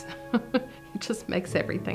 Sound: chuckling

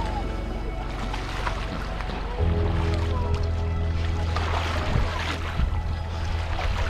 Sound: dolphins splashing in water; soft music

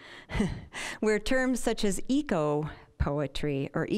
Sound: chuckling

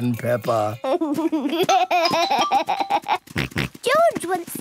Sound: giggles, snorts

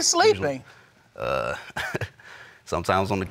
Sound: chuckles

